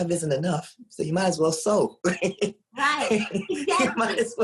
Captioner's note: laughs